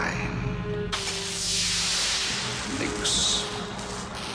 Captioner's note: electricity crackling